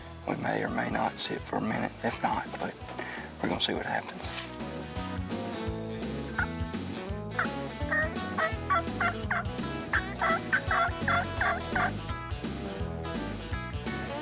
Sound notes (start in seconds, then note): 4.7 turkey calling; 4.7 upbeat music